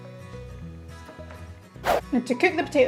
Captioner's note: whoosh sound effect